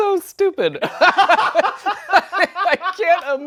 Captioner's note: laughs